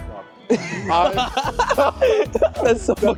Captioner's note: laughter